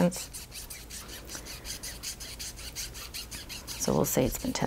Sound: scrubbing

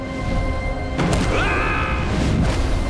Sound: screaming

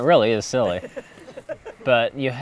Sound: laughter

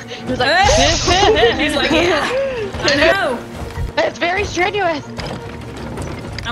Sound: laugh

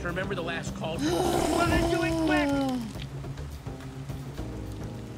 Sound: Sabrina groans

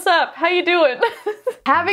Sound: laughing

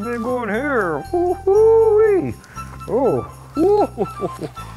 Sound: chuckling delightedly

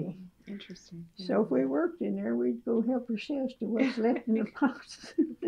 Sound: laughter

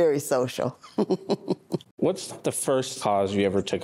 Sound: laughing

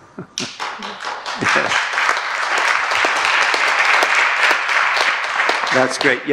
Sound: clapping

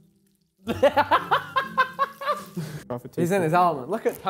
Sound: laughing

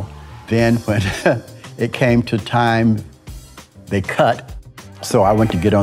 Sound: chuckles

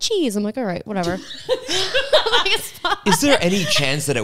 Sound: laugh

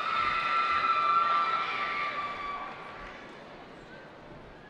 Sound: cheering

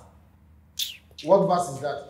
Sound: kiss lips

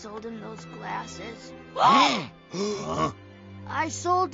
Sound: they gasp

